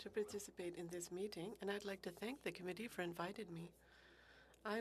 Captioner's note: speaking French